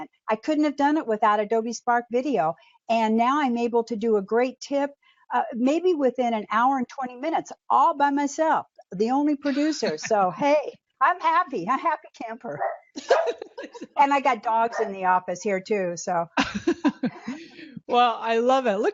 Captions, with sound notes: I couldn't of done it with Adobe Spark video. And now I'm able to do a great tip, maybe within an hour and 20 minutes, all by myself. The only producer. So hey, I'm happy, a happy camper. (barking) And I got dogs in the office here too, so. - Well, I love it.